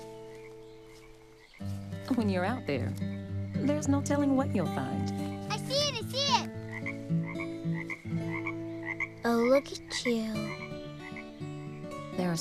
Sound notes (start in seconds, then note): 6.4 the frog croaks